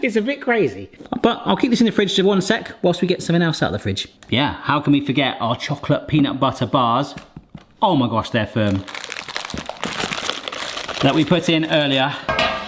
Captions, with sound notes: It's a bit crazy, but I'll keep this in the fridge for one sec whilst we get something else out of the fridge. Yeah, how can we forget our Chocolate Peanut Butter Bars? Oh, my gosh, they're firm. (paper rustling) That we put in earlier.